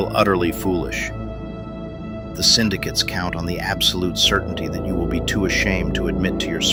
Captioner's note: whispers